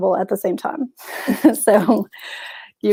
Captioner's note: chuckles